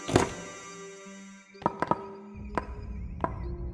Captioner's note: door opens